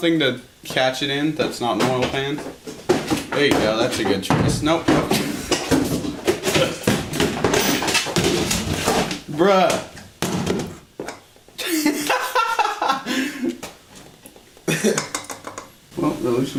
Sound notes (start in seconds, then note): 5.7 TONS of clunking noises in the background; 11.6 laughing